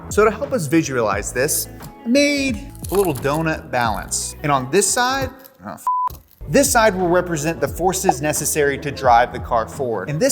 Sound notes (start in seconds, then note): 5.8 beep